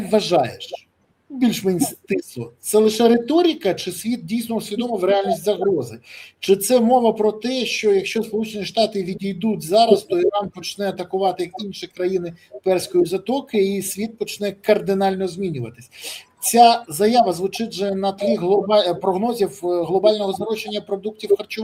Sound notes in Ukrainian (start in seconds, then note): 15.9 сопіння